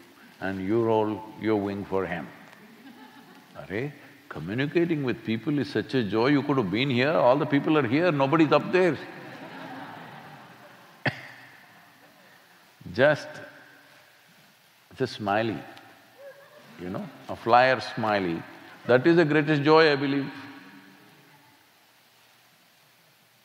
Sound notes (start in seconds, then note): 8.8 laughter